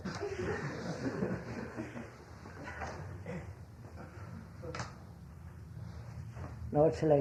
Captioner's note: laughter